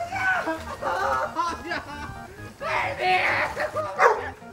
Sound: yelling

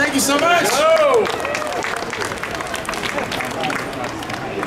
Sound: audience clapping

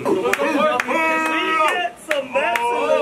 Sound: clapping, shouting

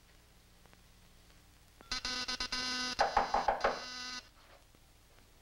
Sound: knock on door; door buzzer rings

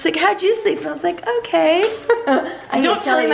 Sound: chuckles

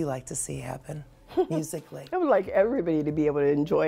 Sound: laughs

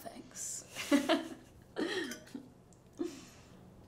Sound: Lucy laughs

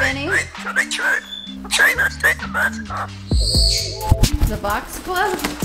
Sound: birds squawking

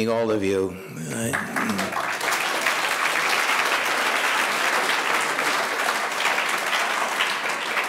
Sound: audience applauding

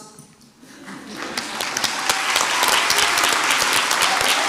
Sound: crowd applauds

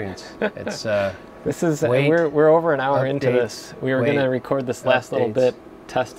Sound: lauging

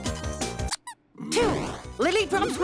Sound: toy squeaks

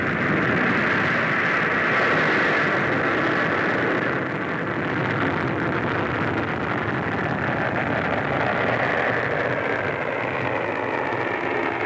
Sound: rocket motor roar

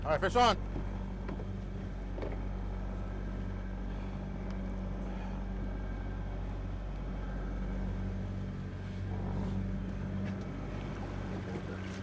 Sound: boat enging idling

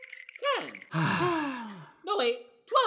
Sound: collective sigh

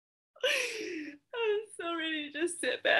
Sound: laughs

